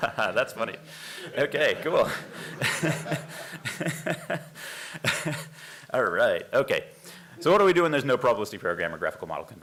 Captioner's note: laughter